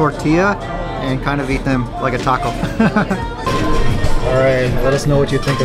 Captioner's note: laughs